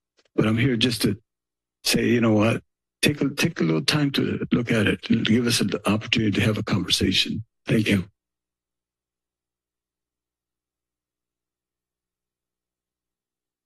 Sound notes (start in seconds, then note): 8.6 silence